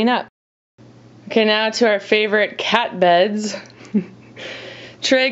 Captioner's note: chuckles